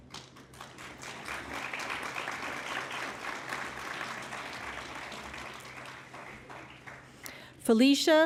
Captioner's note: applause